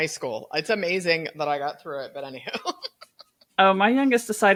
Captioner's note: laughs